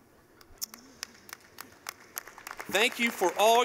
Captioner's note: clapping